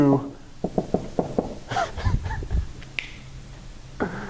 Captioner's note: chuckling